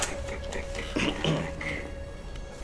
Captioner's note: clears throat